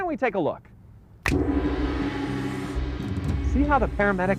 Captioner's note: gong; finger snaps